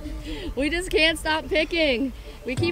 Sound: laughing

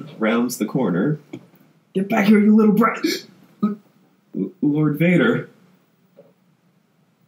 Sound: gasps

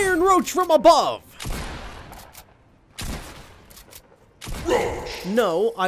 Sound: gun banging

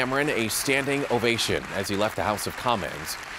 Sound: applause

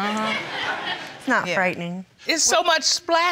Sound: audience laughing

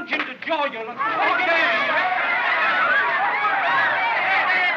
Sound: crowd Shouting

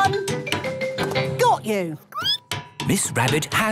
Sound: squeaking

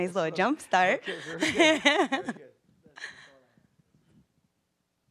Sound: laughing

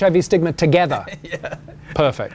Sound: laughs

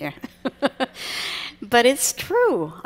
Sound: laughs

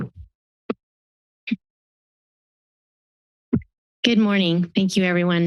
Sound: silence

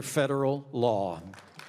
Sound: applause

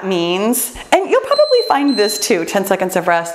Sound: timer beeps

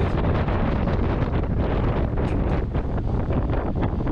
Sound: wind blowing

